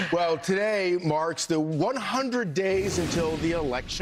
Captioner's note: laughter